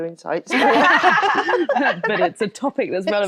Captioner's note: all laughing